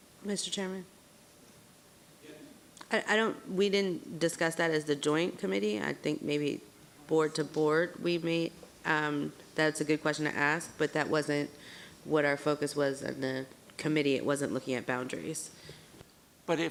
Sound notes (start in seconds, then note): 2.2 speaks faintly; 8.1 man speaks faintly